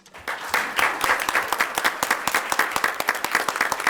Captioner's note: audience applauds